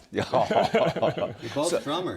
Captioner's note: laughter